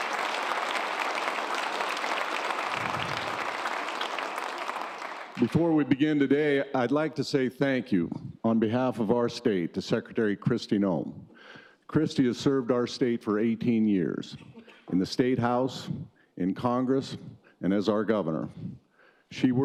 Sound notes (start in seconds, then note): 0.0 cheers and applause; 0.0 applause